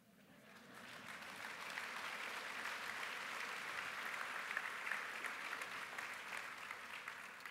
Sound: applause

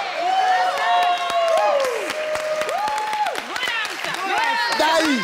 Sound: audience cheers

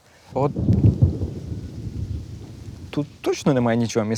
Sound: thunder sounds

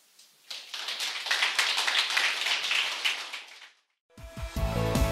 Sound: audience claps

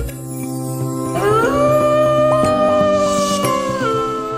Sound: wolf howling

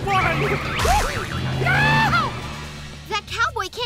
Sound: screaming

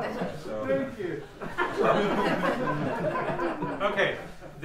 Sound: laughter

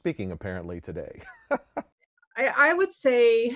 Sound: laughs

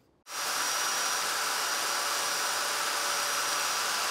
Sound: saw brattling

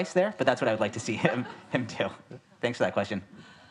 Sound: audience laughs

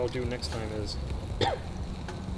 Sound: coughs

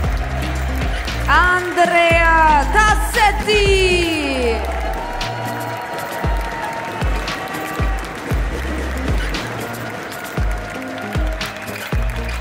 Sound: applause; applause

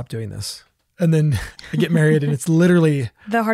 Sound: laughs

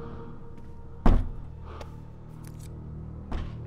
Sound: repetitive banging

